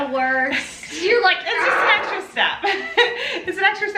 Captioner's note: groans